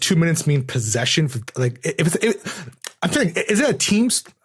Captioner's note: stammers